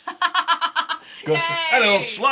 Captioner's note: laughing